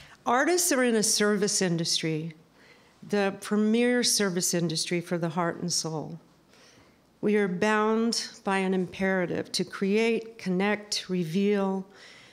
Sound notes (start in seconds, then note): none